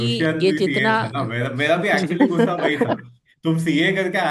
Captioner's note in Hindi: हंसी